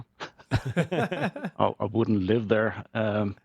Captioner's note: hosts laugh